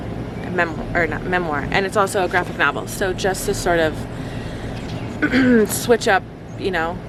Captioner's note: clears throat